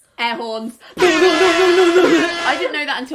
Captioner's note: horns blowing